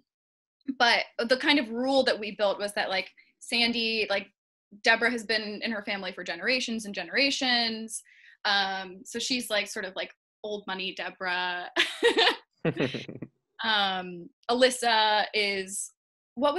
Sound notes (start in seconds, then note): 12.6 laughing